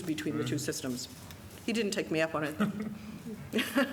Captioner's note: laughter